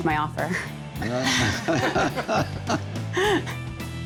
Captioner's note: all laughing